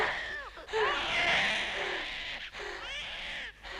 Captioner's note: Hundra breathing heavily; baby crying